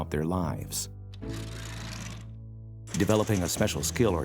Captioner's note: curtain closing